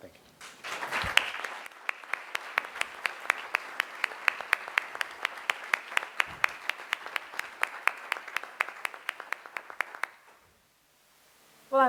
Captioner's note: applause